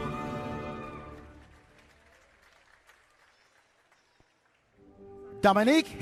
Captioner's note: applause